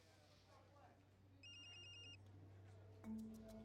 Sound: cell phone ringing

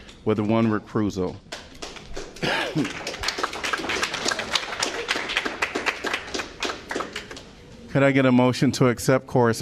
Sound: applause

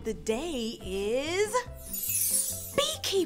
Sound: chime

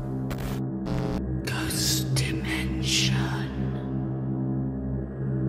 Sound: ghostly Voice; eerie music

